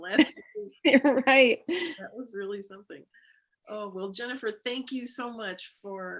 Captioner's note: laughter